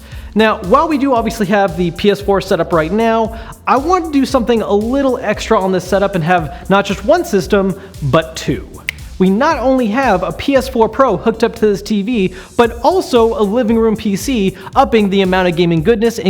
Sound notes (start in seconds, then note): 8.8 snap